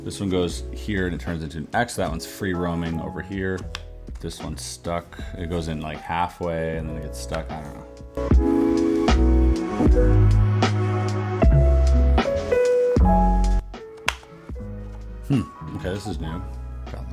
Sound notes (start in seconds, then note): 8.5 chill music; 14.0 button clicking